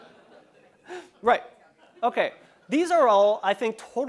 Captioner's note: laugh